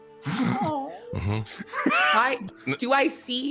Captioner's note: wheezes